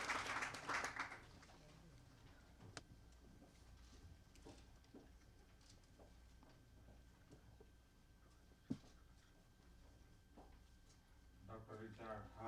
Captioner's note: applause; through translator